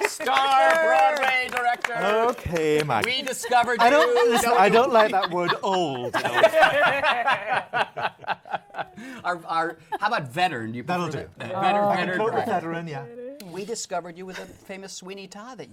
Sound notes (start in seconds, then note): 6.1 laughter